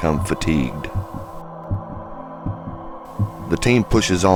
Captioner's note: heartbeat beating